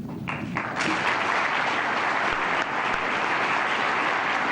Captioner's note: applause